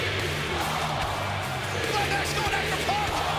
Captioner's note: crowd cheering